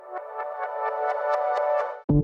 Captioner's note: intro sound